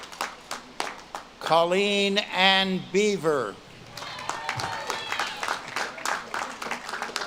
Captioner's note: audience claps and cheers